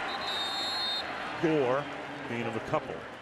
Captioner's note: whistle blows